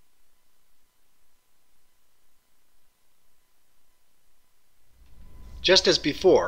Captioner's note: pause